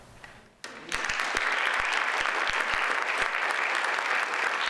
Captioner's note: audience applauds